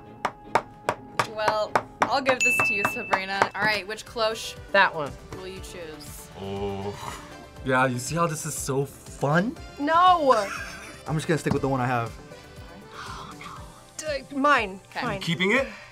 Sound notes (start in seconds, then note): 10.3 laughs; 12.6 whispers